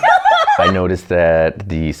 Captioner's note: everyone laughs